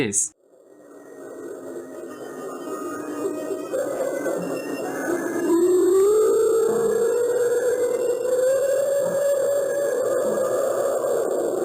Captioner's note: eerie sounds